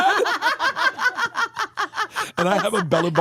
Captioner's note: laugh